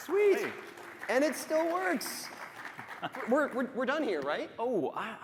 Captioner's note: applause